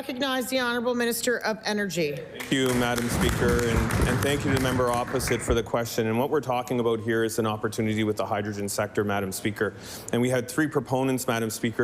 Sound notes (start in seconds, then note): 6.4 applause